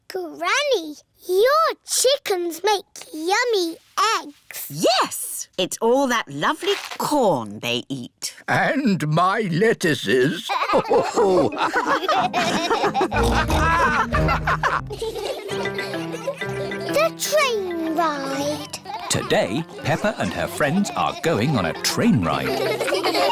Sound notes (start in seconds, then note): 10.5 all laugh; 14.8 laughter